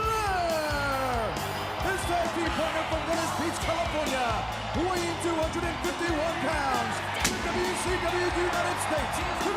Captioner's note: crowd cheering